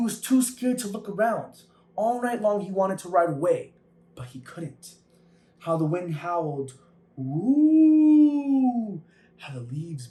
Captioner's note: howls